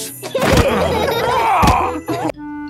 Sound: laughing

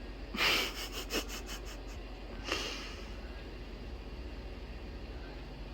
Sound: laughs

